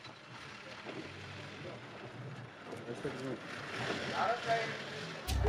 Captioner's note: indistinct chatters